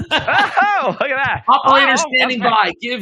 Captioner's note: both laugh